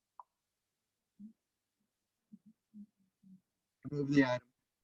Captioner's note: faint speaking off mic